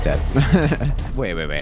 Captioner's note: laughs